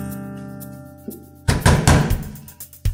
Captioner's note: knock, knock, knock